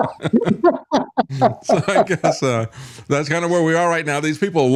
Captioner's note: laughing